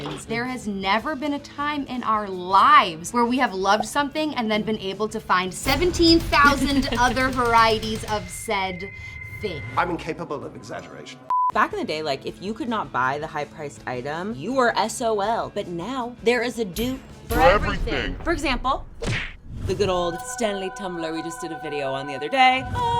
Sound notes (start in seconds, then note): 11.2 beeping